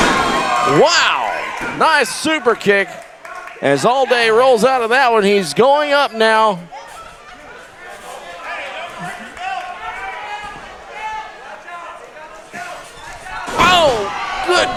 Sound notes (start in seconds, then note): 6.5 crowd cheering; 12.0 body slamming